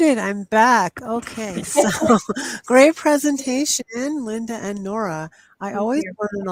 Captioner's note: laughs